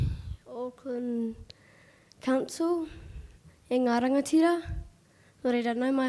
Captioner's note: speaking foreign language